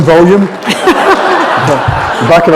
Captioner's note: laughter